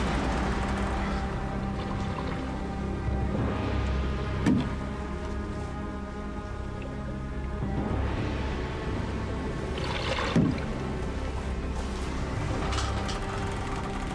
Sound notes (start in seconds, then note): 0.2 moves to brooding music; 3.2 water sploshing